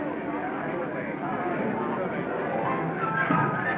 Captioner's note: chattering